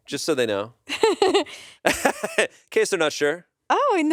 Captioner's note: everyone laughs